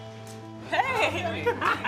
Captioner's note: laughs